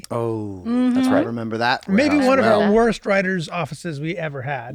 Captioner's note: none